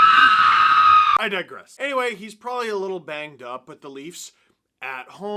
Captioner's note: screams